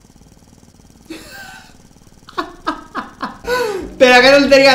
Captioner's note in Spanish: risas